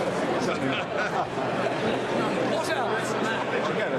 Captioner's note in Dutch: publiek gebabbel